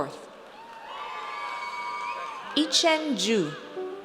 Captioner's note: audience cheers